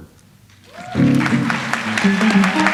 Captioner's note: audience applauds; light jazz music